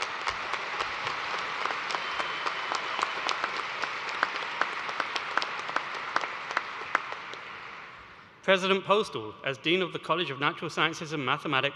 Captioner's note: cheers and applause